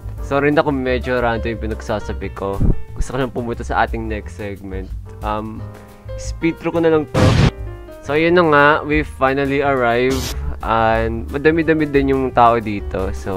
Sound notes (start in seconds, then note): 7.1 explosion